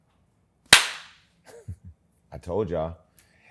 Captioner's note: laughs